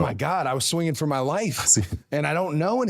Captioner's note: Jey laughs